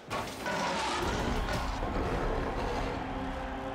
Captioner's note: roaring